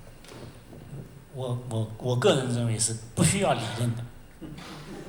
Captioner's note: Mandarin; laughter